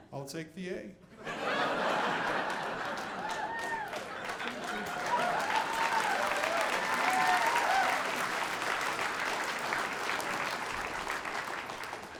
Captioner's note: audience applauding